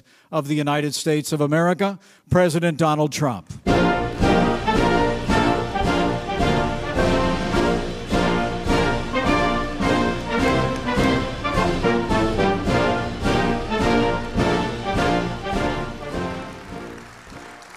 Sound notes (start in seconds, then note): 3.7 upbeat instrumental music; 6.7 audience applauding